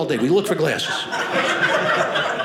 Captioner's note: audience laughing